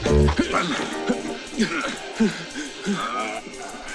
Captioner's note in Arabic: يتأوه